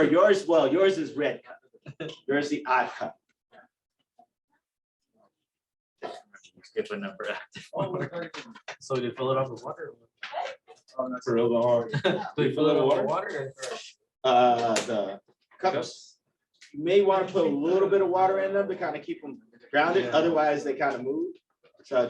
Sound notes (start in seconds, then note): 7.6 laughter